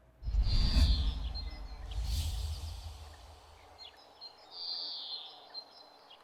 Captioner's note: soft percussive swooshing; birds chirping